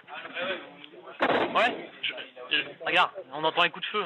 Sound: shots fired

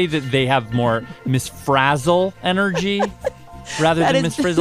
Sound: laughs

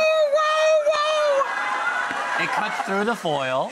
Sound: celebrities cheer; audience laughs

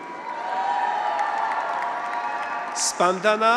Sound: graduates cheer

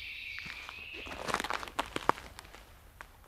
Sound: creaking

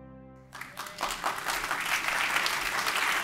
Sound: applause

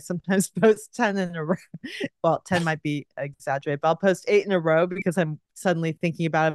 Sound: giggles

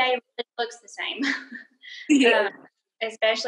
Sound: laughing

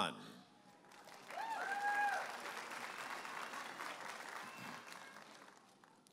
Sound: audience applauding and cheering

